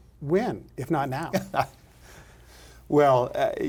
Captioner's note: laughing